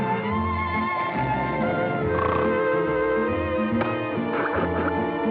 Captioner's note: snoring